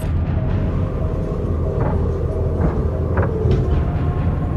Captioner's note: rover droning